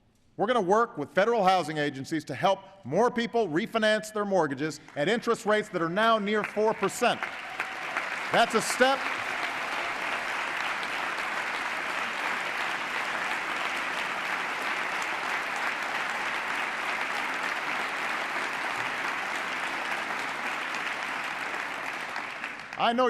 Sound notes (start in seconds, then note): 9.0 applause